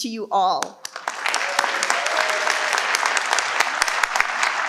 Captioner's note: participants clap